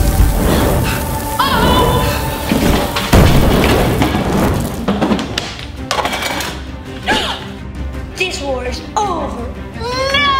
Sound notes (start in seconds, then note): 0.0 determined music playing; 0.0 fire crackling; 2.3 crashing; 5.9 dishes clanging; 7.6 gasping